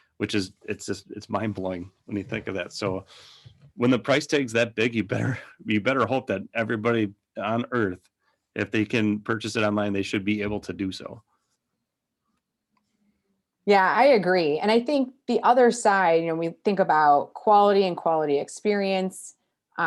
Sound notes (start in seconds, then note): 5.1 giggles